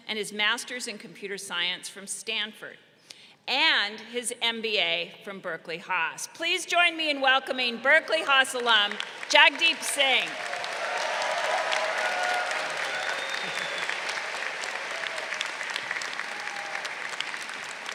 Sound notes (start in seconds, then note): 10.6 crowd cheering